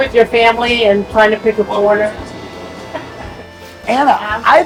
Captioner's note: chuckles